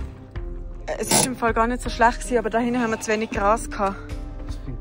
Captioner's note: in Swiss German